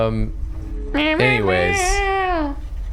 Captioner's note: humming